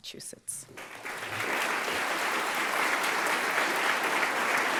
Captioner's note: audience clapping